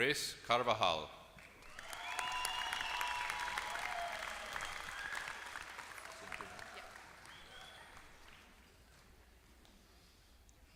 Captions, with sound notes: >> Grace Carvajal. [APPLAUSE]